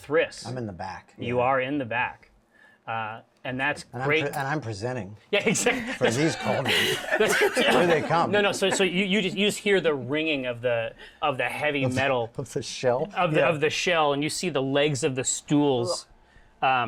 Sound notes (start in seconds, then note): 5.5 laughing